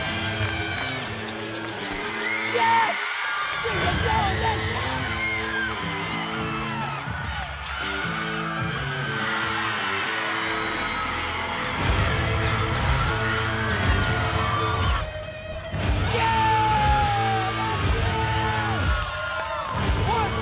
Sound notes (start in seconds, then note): 0.0 uptempo music; 3.5 audience cheering; 16.0 audience cheering; 19.0 uptempo music